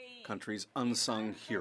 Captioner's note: speaking French